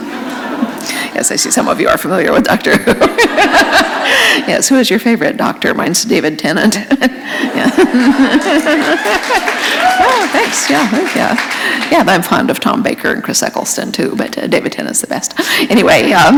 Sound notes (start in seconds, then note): 2.4 laughter; 6.7 laughter; 7.9 applause